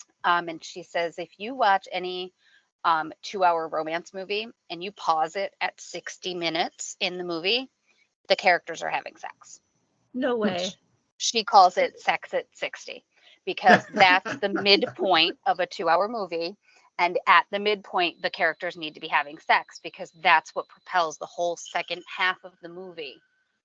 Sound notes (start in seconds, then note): 13.6 laughing